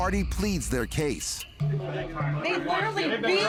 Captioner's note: indistinct chatter